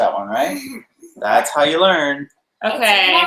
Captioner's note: girl laughs